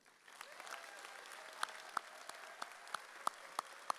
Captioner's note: audience cheers